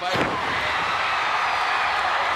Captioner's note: blows thudding; footsteps plodding; blows thudding